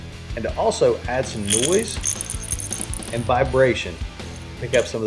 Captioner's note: bait rattles